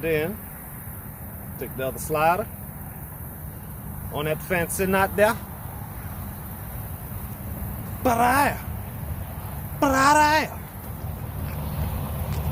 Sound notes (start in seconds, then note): none